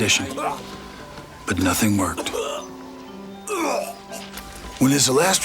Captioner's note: Anthony coughs